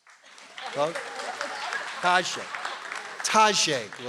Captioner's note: audience applauds